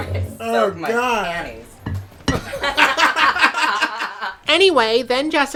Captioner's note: laughter